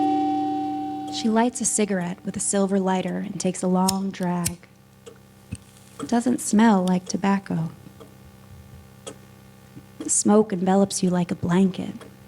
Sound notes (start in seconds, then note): 0.0 ominous music; 3.8 lighter sounds; 6.0 continous ticking